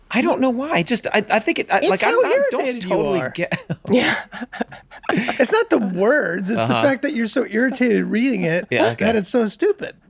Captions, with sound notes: - You said that last time but -- - I don't know why. I just, I think it, -- like I don't totally get -- - It's how irritated you are! (group laughs) It's not the words. It's the fact that you're so irritated reading it